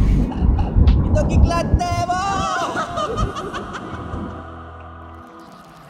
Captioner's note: laugh